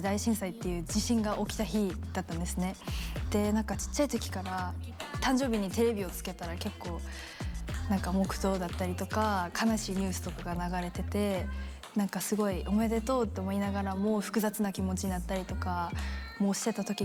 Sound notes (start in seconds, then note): 4.2 speaking in foreign language